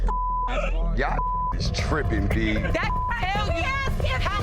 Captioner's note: beeps